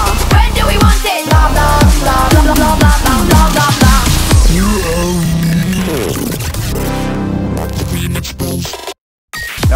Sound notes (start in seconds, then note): 3.1 glitching sound; 6.3 whoosh